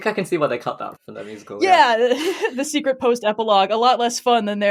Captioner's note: laughing